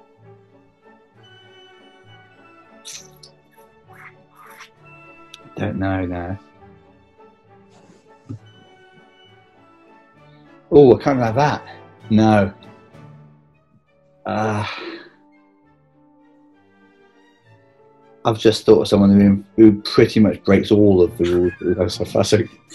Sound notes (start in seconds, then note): 2.8 sucks in air through teeth